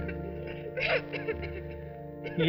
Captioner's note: coughs